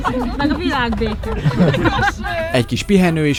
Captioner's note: laughter